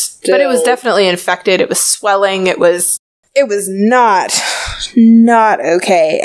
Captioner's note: sighs